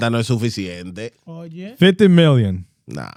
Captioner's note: speaking In Foreign Language